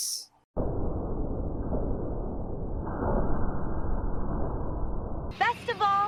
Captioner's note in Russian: звук бездонной пропасти